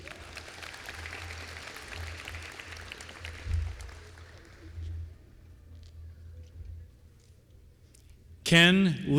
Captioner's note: applause